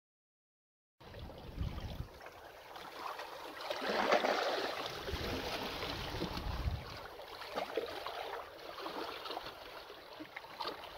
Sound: sound of sea

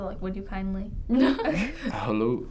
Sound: both chuckle

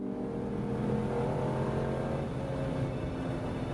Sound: car racing

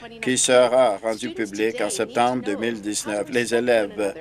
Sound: none

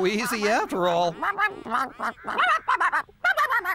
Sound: quacking

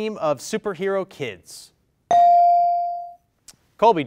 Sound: bell rings

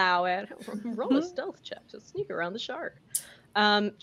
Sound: in a joking voice

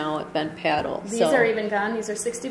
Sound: voiceover

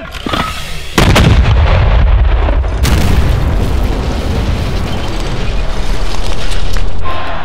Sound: explosion

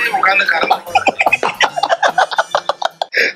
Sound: laughs

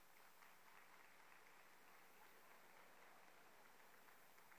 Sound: audience applauding

